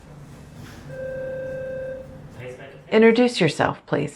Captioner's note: intercom rings